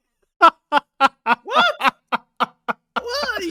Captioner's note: laughing in italian